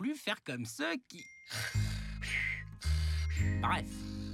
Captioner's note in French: ronflement